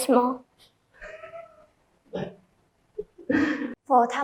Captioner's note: laughs